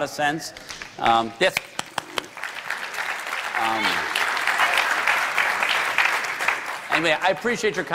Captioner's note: applause